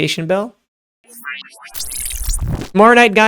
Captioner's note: electric whooshing